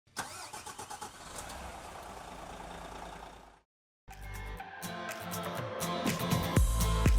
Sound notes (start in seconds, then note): 0.2 engine rumbling; 4.1 upbeat music